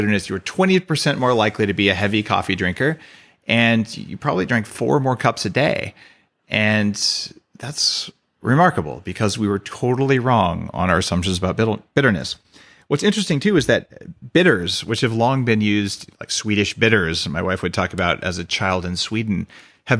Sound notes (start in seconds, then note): none